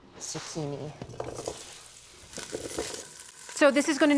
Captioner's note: sizzles